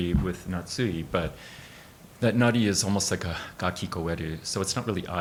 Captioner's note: speaking in Japanese